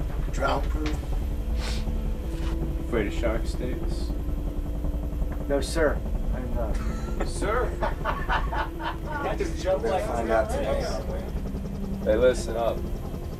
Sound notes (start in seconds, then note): 6.7 laughing